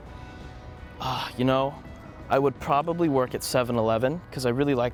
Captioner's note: sighs in thought